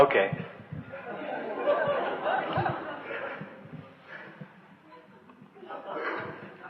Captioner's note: laughter